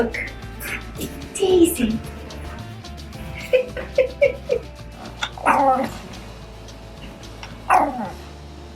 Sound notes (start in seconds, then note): 3.1 laughing; 4.8 growling